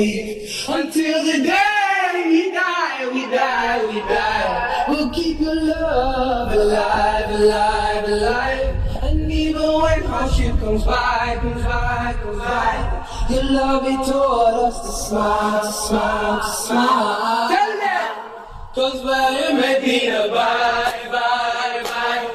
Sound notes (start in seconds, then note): 9.7 non-english